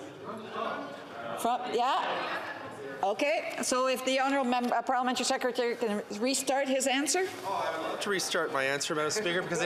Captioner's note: mixed voices